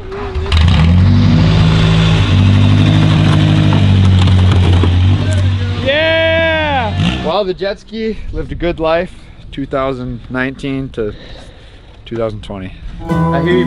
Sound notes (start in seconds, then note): 0.2 engine revving; 3.8 crunching; 6.0 cheering